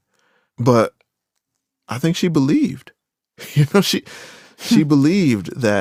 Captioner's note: laughs